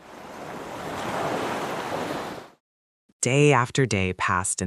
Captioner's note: ocean waves